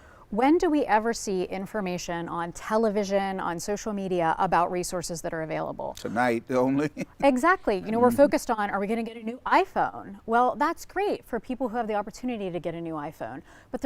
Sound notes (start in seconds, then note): 6.8 chuckles